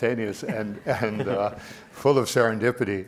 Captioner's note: laughing